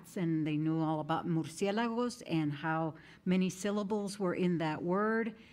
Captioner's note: speaking in foreign language